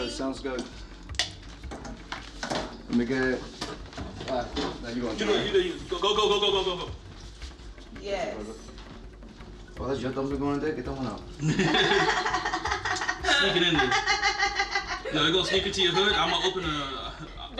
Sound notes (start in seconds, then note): 11.4 laughing